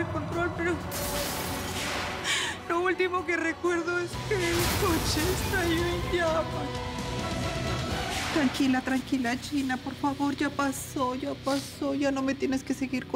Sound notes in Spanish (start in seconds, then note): 0.8 Estrépitos del accidente